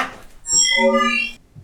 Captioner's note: hologram call sound